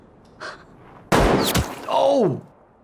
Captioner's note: player speaks in Korean; gun booms